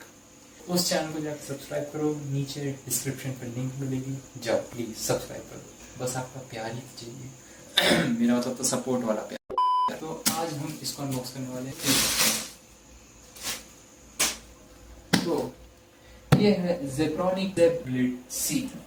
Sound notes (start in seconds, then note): 7.7 coughs